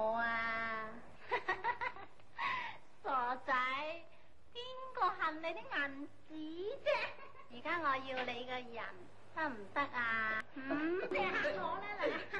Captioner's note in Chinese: 香港艷星的鶯聲浪語